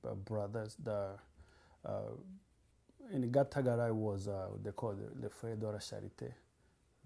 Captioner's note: non-english